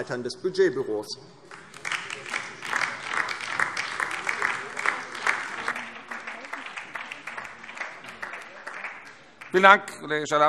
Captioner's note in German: Beifall DIE LINKE